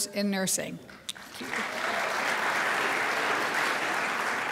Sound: crowd applauds

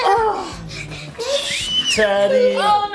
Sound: screaming

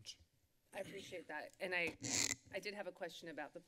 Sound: microphone rustling

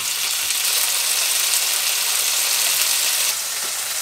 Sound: sizzle

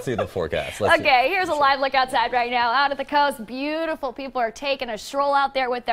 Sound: laughter

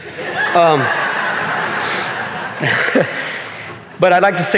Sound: audience laughing

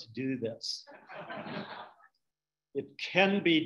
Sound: audience laughing

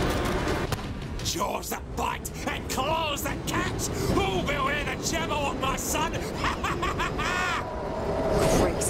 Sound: laughs

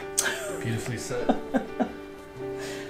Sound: giggling

